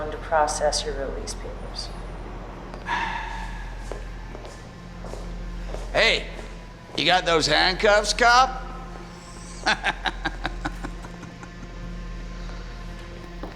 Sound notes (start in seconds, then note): 8.4 laughs